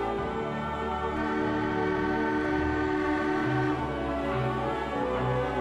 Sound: ship horn bellowing

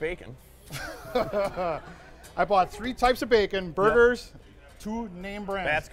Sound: laughing

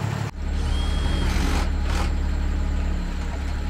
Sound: drilling

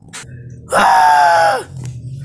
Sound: screaming

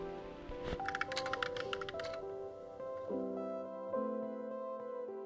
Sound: bright music; keys clacking

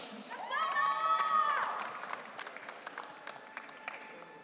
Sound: audience cheering

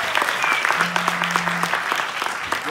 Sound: phone buzzing

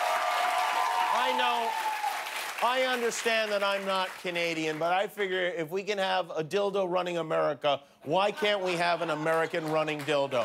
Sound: cheers and applause

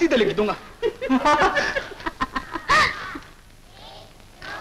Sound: laughing

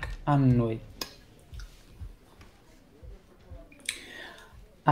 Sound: monitor beeps; voices from the ward

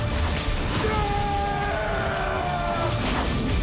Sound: Voldemort screaming; explosion booming

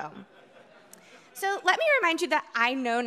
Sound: audience chuckling

